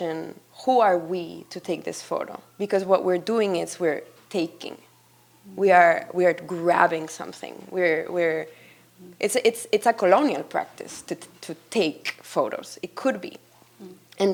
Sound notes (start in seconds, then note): none